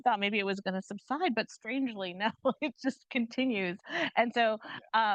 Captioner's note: chuckles